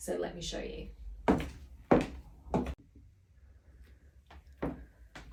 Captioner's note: footsteps thudding